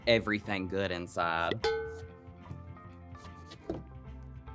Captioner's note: cowbell clanging; soft music